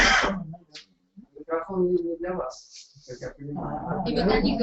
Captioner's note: interference